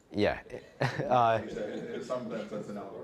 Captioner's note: all laughing